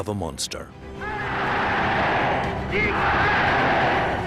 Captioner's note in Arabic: الصوت المنطوق باللغة الألمانية